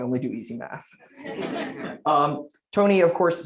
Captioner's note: laughter